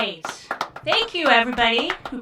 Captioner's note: sparse hands clapping